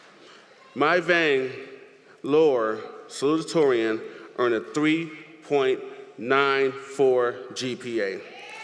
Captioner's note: applause